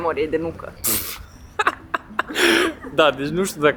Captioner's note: laughing